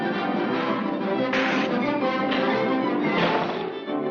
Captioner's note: dramatic music continues; feet scrape; door slams